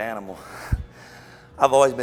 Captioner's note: laughs softly